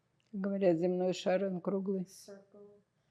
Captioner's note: russian